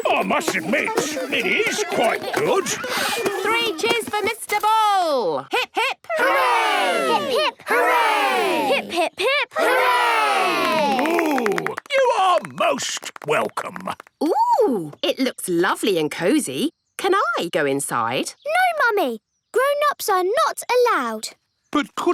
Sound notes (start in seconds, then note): 10.4 applause